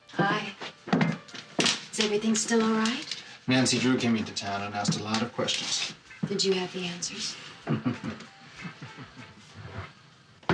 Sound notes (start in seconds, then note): 7.6 chuckling